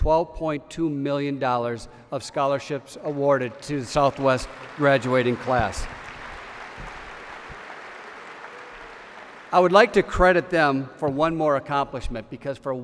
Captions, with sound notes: uo to $12.2 million of scholarships awarded to Southwest graduating class. (applause) I would like to credit them with one more accomplishment,